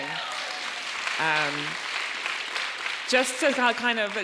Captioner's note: audience cheering and applauding